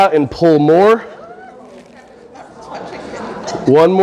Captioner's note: audience breathing while stretching